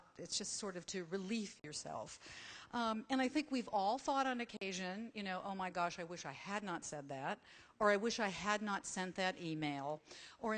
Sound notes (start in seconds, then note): none